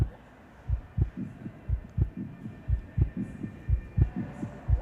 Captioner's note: heart beating